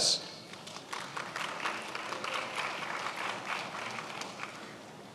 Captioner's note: attendees applauding